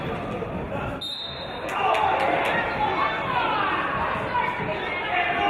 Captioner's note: referee's whistle